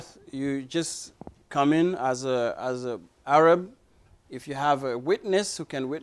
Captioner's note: none